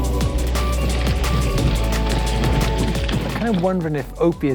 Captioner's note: gravel grinding